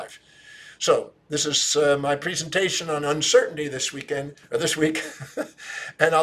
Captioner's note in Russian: смеется